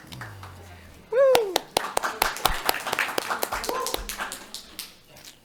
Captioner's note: applause